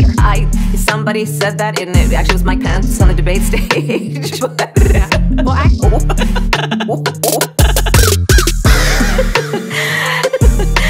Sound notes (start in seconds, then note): 9.6 gasp